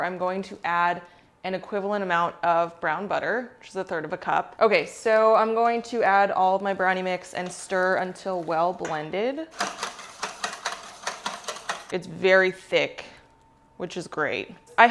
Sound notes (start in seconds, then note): 9.5 floor whisking